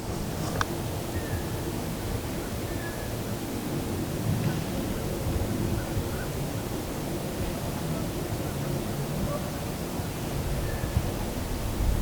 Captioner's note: wind